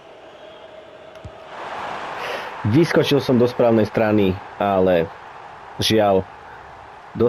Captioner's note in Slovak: Potlesk